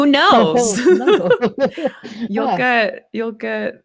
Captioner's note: laughs